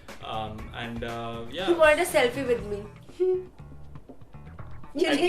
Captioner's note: laughs